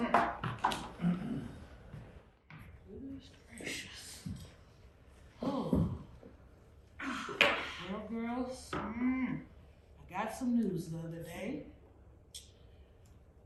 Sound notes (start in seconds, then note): 0.0 indistinct friendly chatter and laughter; 5.8 sighs